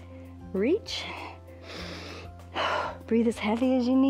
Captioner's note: inhales and exhales